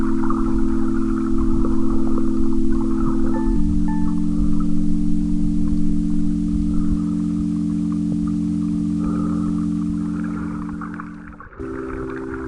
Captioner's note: wind blowing